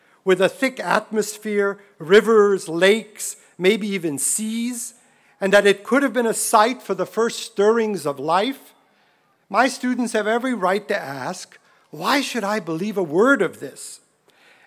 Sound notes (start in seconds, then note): none